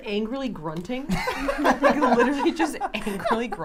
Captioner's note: laughing